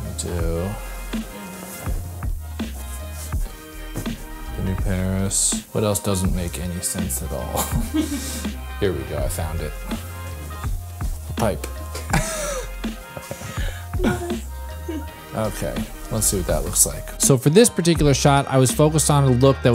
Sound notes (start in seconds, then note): 7.5 laughter; 12.0 laughter